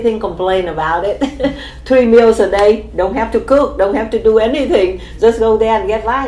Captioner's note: laughs